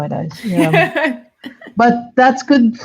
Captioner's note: laughing